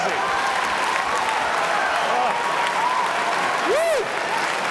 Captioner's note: applause